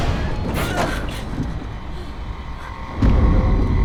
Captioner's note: Mattie gasps; eerie music